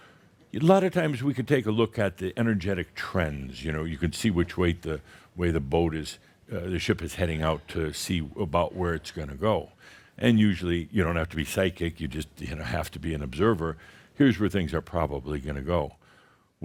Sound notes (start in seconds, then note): none